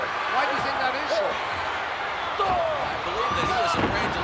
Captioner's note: wrestlers grunting